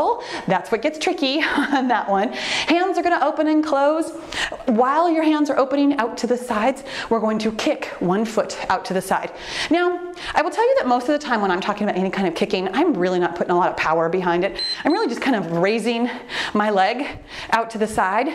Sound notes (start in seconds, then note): 14.5 timer beeps